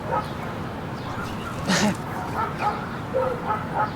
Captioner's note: dog barking